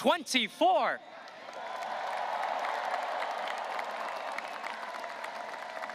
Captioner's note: audience cheering and applauding